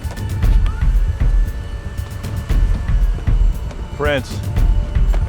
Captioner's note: jet door whirs